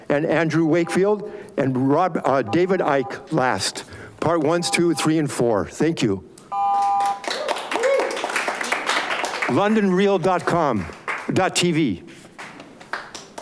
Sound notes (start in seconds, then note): 6.8 audience applauds